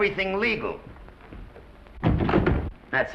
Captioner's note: doors thud